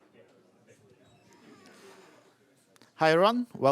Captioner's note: indistinct chatter